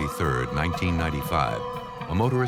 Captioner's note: sirens